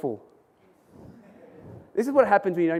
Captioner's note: audience laughs